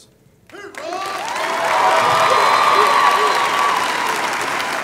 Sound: applause

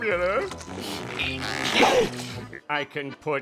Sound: grunting

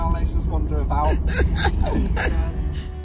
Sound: laughing

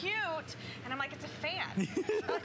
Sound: laughter

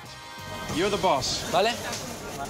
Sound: speaking Spanish

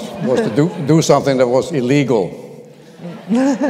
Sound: laughter

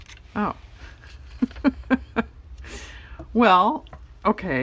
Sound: laughs

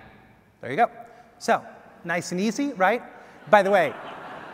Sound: audience laughs

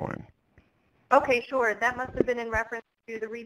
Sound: voiceover

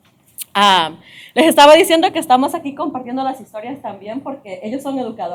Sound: speaking spanish

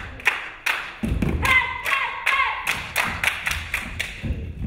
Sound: dancer yelling

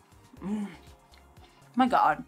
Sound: moans

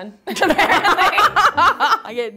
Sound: laugh

